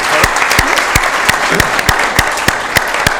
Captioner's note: applause